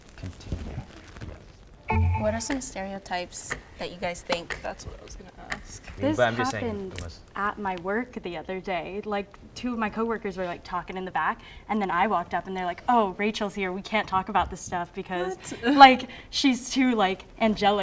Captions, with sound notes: - Continue, yes. (beeps) (clock ticks) - What are some stereotypes that you guys think? - That's what I was gonna ask. - This happened at my work the other day, like two of my coworkers were like, talking in the back, and then I walked up and they're like, "Oh, Rachel's here, we can't talk about this stuff," because-- - What? - Like, she's too, like, angelic.